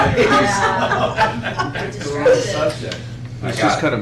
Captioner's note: laughter